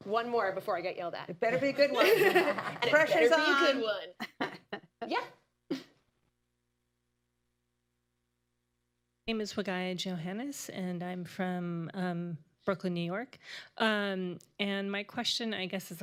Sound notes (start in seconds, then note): 1.6 laughs; 6.1 laughter